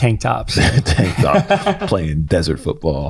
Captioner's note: laughs